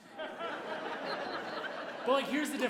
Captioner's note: audience laughing